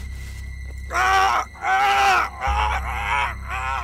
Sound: crying out

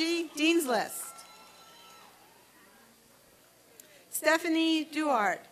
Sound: applause and cheering

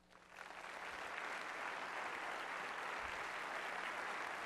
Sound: audience applauding

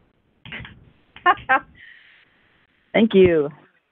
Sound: laughter

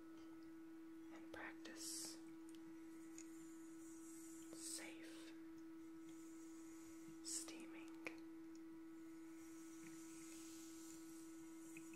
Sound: water Trickling

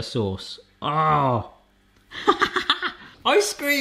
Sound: chuckles

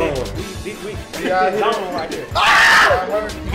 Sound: laughter; scream

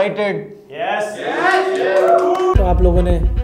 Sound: audible Cheer

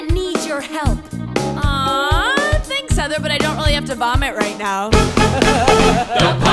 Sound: laughs

